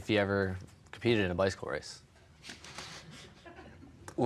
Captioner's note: laughing